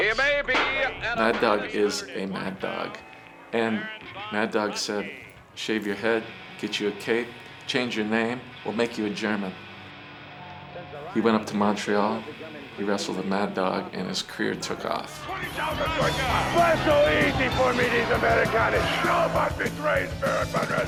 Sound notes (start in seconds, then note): 15.7 and audience shouting faintly